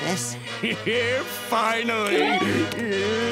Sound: chuckles

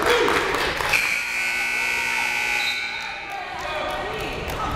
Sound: timer buzzes

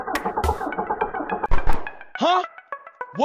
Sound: attempting to start car's engine; car muffler clicks

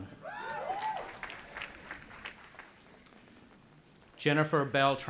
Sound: audience applauding and cheering

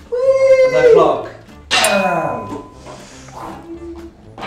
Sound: ding!

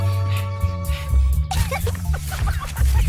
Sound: giggling

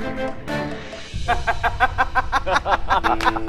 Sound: both laughing

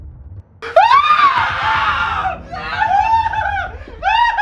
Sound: gasping in horror

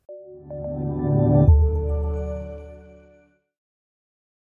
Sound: electronic chiming

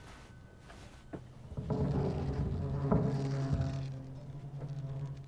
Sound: movement upstairs

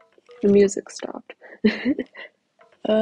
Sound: laughs

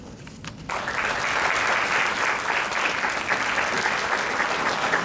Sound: crowd clapping

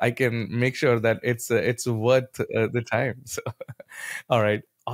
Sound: chuckles

